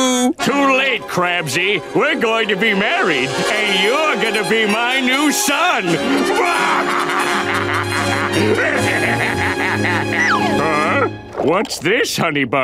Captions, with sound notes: Too late, Krabsy. We're going to be married and you're gonna be my new son. [laughing] Huh? What's this honey bunch?